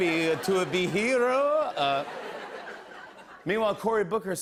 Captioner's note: laughter